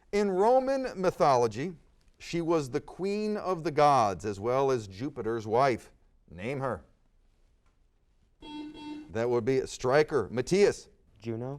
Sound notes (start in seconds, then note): 8.4 buzzer sounds